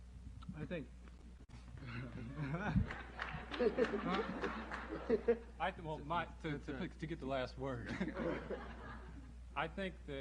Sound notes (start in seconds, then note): 2.2 laughter